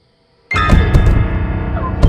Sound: pounding on window

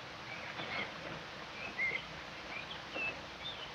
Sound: very quiet rustling of trees; jungle bird sounds

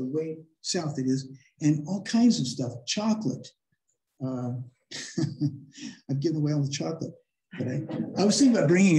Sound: laughter

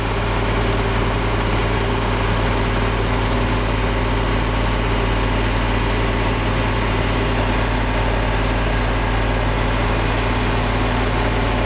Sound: construction noise

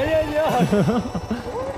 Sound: laughing

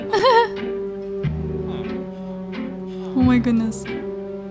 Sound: giggling

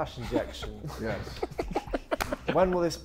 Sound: Sidemen laughing

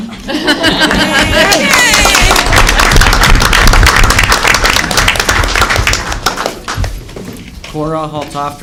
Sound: applause

